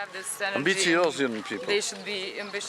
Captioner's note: speaks in foreign language